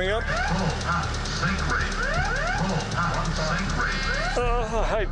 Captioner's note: alarms going off